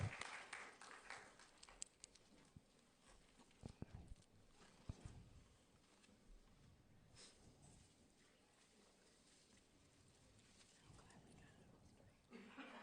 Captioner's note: applause